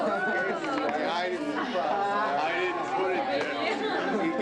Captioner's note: crowd chattering